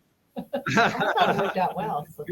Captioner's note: laughs